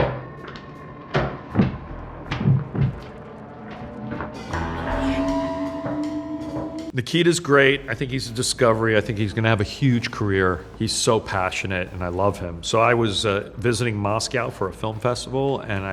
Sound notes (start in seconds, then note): 4.1 metal clanging